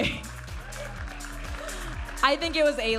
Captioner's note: audience applauding and cheering